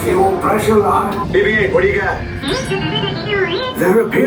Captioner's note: BB-8 beeping